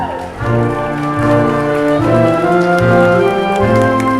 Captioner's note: audience clapping